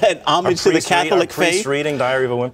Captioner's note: laughter